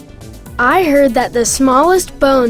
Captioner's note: voiceover